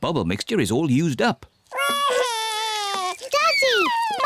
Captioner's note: wails